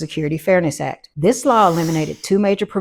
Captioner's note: air hissing